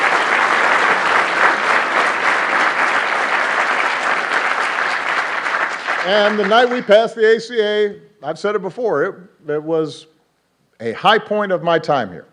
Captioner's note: applause